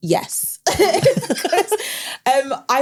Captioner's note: everyone laughs